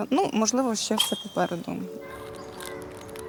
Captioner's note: the whistle of an arrow